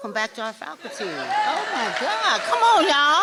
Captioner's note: applause